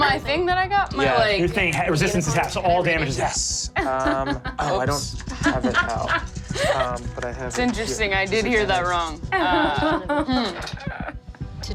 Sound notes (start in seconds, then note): 3.8 Sofia laughs; 9.3 laughs